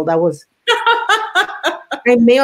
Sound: laughs

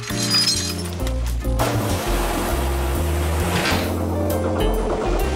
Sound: bike squeaking; water splattering

